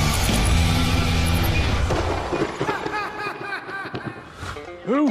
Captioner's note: lightning strikes; laughs